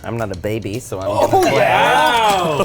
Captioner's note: group exclaiming